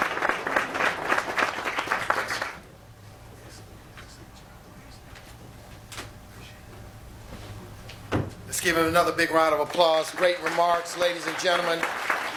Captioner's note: applause